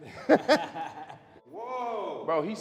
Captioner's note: laughing